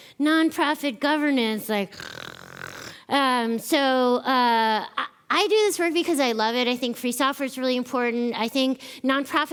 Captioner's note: speaker snores